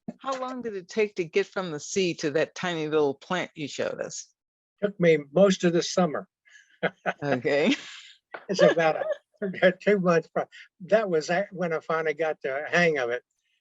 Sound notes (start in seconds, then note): 6.8 chuckles; 8.5 laughter